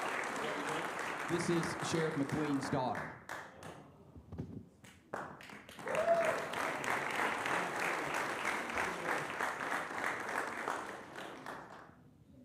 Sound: applause

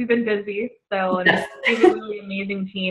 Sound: laughter

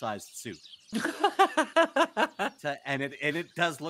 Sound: laughs

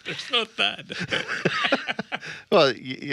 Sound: men laughing

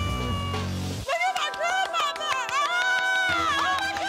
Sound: cheers

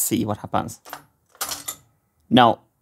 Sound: mechanism clicking

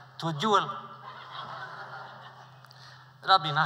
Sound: laughter

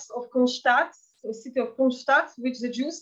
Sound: speaking in Yiddish

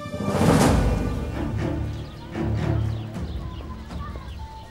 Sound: birds chirping noises

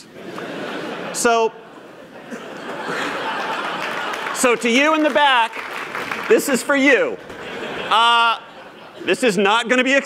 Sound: applause

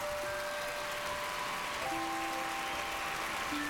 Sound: cheers and applause

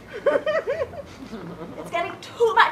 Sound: laughter

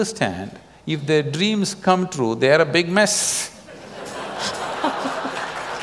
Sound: laughter/Applause

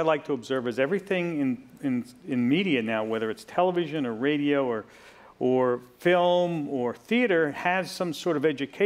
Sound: none

